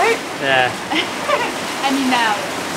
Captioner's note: laughs